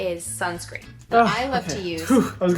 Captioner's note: sighs